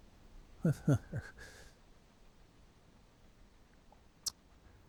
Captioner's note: Man in White laughing